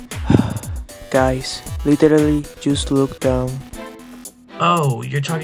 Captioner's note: sigh